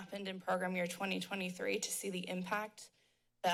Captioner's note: none